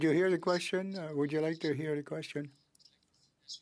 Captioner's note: speaking French